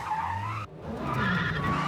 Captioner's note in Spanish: Chirrido de neumáticos